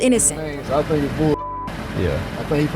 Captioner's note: beep